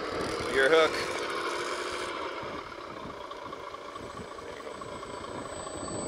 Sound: machinery engine revs

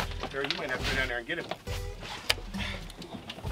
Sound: light struggling sounds

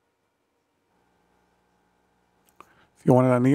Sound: silence

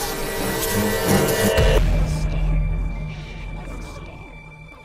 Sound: explosion

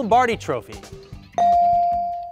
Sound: buzzer pings

